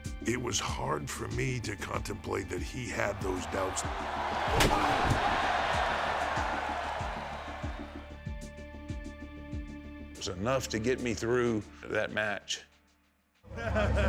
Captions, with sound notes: It was hard for me to contemplate that he had those doubts. (crowd murmuring) (tense music) It was enough to get me through that match.